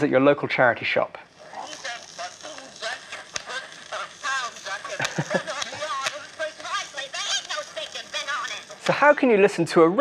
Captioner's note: crackling, scratches, high-pitched music and voices